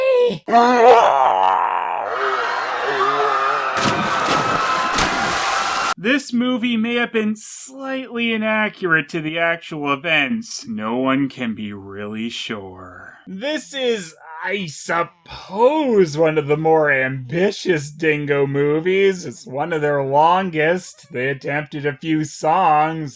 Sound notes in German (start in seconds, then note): 0.5 Blutbusch kreischt; 2.8 Leute schreien und springen über Bord